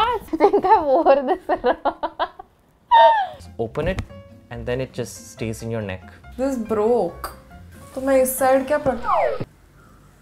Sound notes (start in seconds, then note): 2.9 laughs